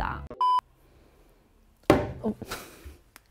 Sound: screen beeping; cupboard door banging

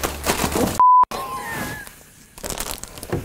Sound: beep; laughs

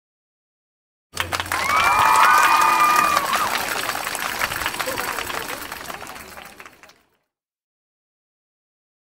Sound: sound of applause

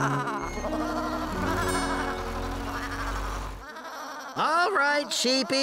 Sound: bleating

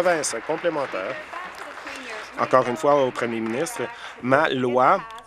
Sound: applause

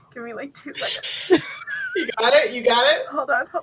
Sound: laughs

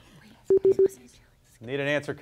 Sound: beeping

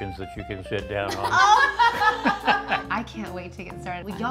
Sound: all laughing

